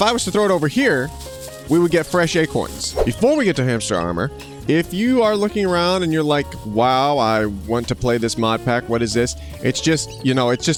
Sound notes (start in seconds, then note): 2.7 whooshing sound